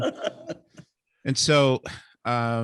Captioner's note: laughing